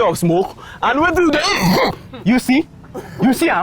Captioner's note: uncontrollable coughing